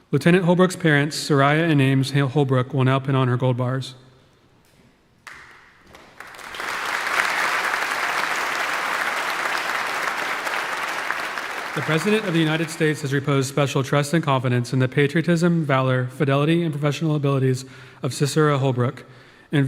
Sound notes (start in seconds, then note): 5.8 audience applauding